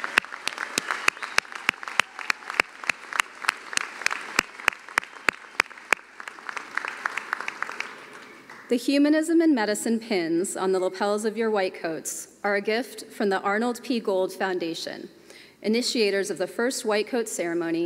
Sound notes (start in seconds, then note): 4.5 cheering and applause